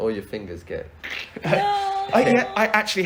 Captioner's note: makes painful bending sound